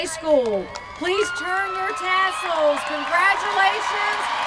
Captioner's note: cheers